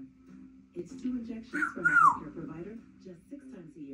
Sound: whistles

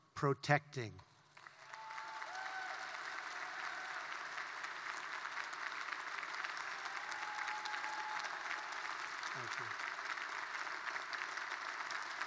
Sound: applause

